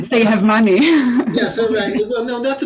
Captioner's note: chuckles